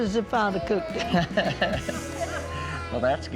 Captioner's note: laughs